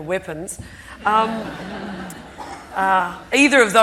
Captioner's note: audience laughing